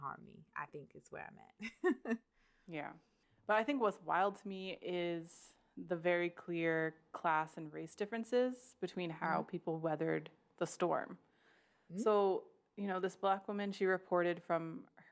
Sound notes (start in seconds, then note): 1.7 laughs